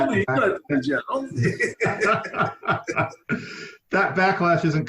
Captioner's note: laughing